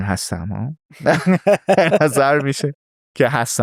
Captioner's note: laughs